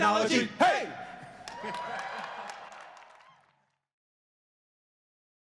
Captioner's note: cheering